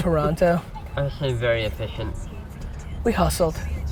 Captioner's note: laughs